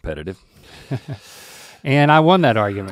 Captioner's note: chuckles